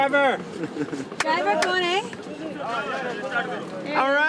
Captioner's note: in foreign language